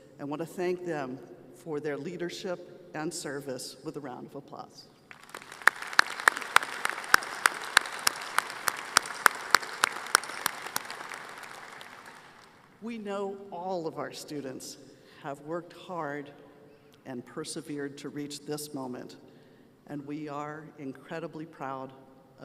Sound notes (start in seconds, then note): 8.2 applause